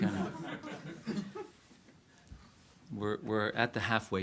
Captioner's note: audience laughs